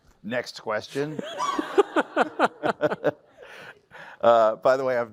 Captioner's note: laughter